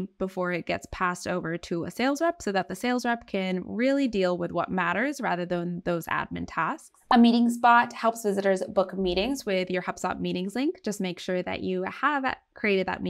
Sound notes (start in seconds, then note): 6.9 text overlay blooping